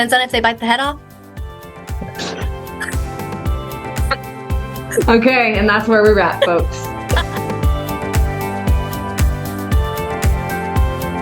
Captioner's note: laughs